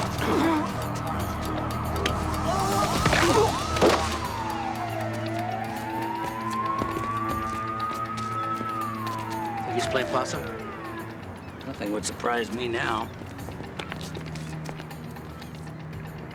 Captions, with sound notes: (sirens wailing) (groaning) (cracking) (sirens wailing) Think he's playing possum? Nothing would surprise me now.